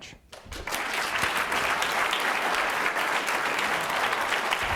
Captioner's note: applause